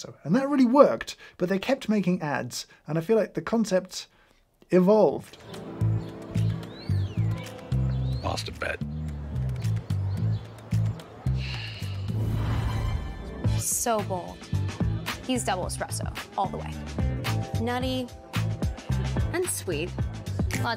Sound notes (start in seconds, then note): 5.4 playful suave music; 11.4 sighs